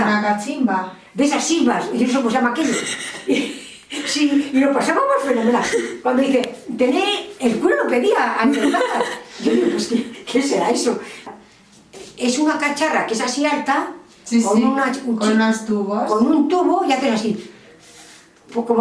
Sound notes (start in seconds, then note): 2.6 laughs